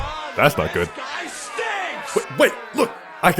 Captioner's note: angry mob